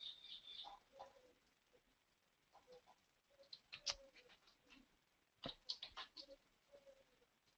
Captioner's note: pause